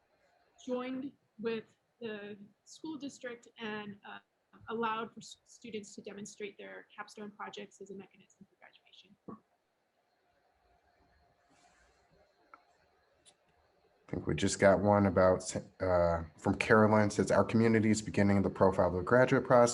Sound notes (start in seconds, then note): none